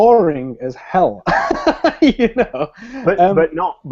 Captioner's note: laughs